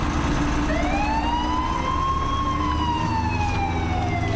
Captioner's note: alarm blaring